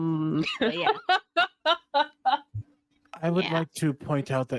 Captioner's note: laughing